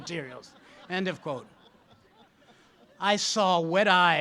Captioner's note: audience laughs